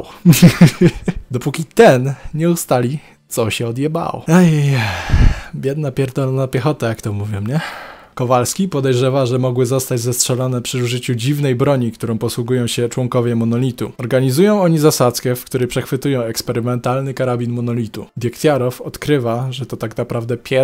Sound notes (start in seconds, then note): 0.3 laughs in audio issues; 4.3 sigh